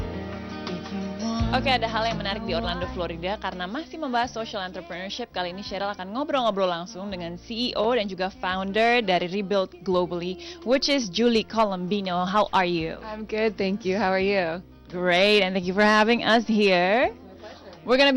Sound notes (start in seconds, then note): 2.8 non-english speech